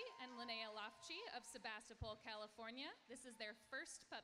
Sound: applauding

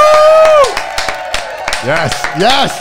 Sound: cheering

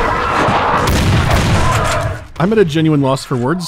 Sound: bang-bang

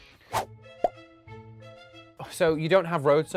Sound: emojis popping

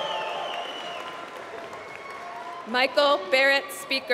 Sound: applause

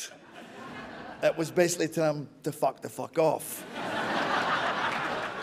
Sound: laughter

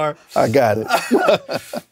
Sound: laughs

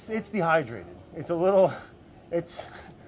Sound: laughs

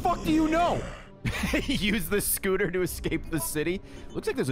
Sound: laughs

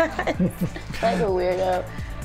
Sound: giggle

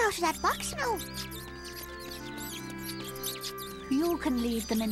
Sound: cheep cheep cheep

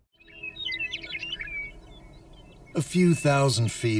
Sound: birds tweeting

